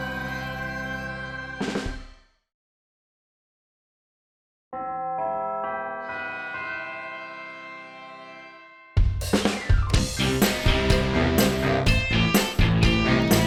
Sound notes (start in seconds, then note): 4.8 bells chime; 9.0 rock music